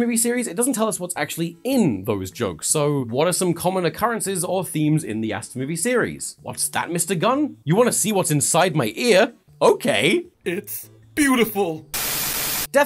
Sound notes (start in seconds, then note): none